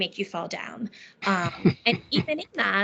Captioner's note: laughing